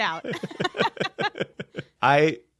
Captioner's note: laughing